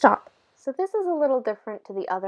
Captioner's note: voiceover